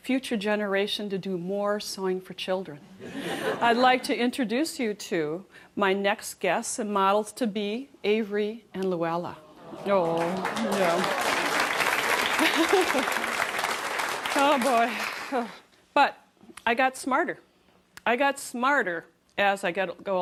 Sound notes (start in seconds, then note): 9.9 applause; 13.2 laughs